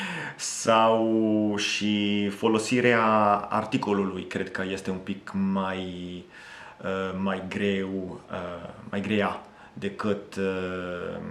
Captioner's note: in Romanian